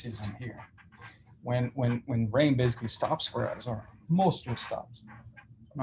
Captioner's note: stammers